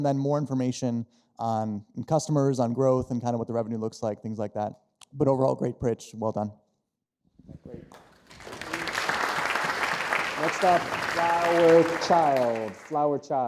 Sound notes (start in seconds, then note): 7.8 audience applauding